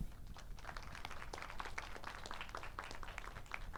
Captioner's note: audience applauds